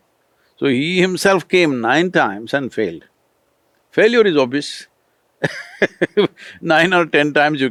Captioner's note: laughs